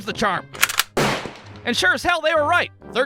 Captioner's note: click-clack! BOOM!